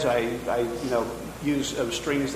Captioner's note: none